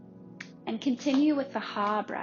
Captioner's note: hands tapping